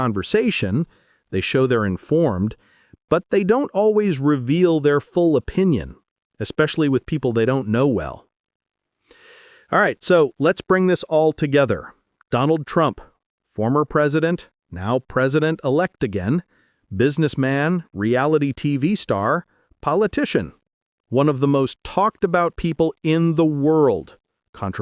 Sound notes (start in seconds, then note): 9.0 sound: Deep breath